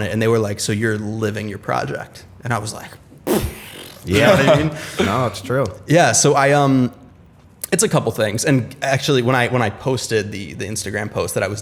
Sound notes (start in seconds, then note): 5.7 laughter